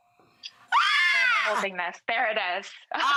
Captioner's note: squealing